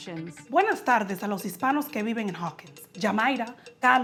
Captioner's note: in Spanish